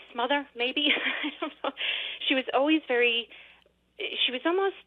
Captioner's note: laughs